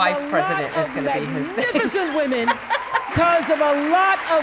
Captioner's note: laughs